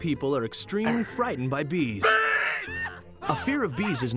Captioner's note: all scream